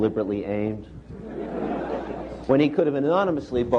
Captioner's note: laughter